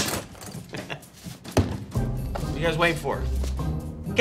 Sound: chuckles

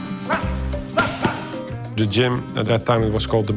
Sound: grunting

